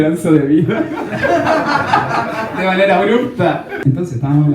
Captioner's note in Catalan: rialles